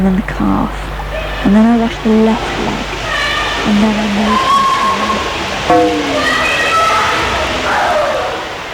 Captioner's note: running water, children yelling